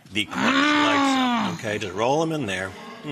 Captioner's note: Rachael roars